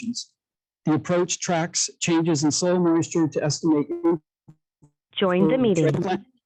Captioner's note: background "joined the meeting" interference